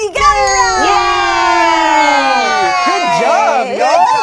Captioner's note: group cheers